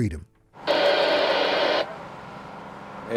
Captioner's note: radio static